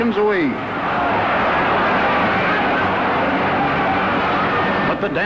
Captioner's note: crowd cheering